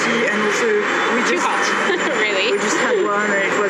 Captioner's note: laugh